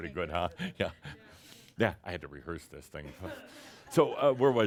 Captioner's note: chuckles